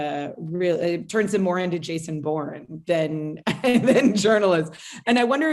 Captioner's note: laughs